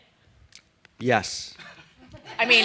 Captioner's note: laughter